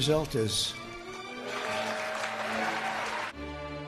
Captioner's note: applause